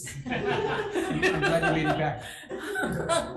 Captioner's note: audience laughs